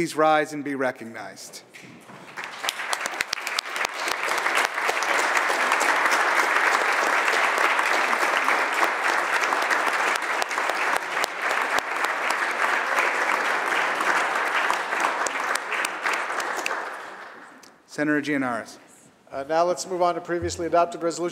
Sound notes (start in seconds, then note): 5.0 applause